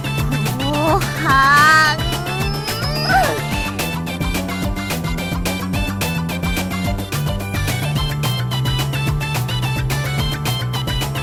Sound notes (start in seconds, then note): 5.1 screams